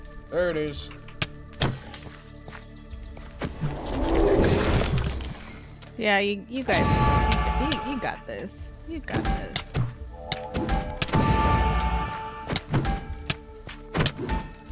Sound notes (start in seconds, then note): 1.2 magical fighting sounds; 9.9 more magical fighting sounds; 10.2 fighting sounds